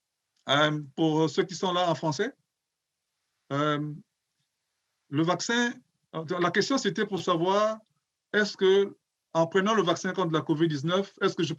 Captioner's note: speaking French